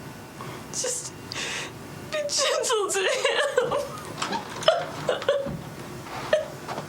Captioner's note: crying